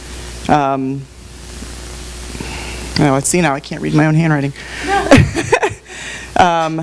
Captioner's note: laughs